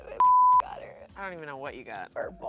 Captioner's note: beep